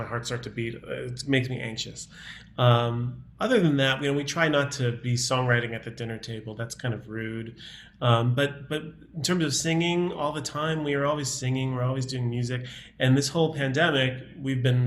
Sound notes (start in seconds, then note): none